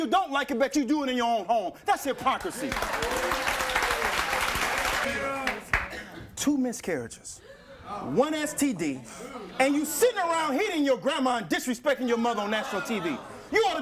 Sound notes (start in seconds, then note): 2.1 audience applauds